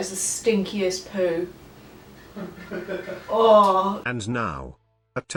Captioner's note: laughing from the other room